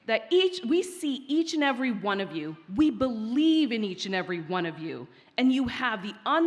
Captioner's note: none